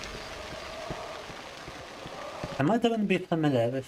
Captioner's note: crowd cheering